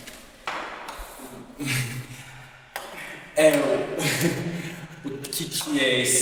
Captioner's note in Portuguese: Risos